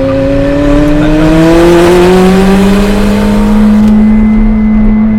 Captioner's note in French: Vrombissement du moteur